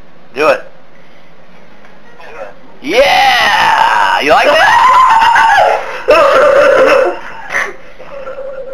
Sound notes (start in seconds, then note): 3.1 voiceover; 4.8 laughing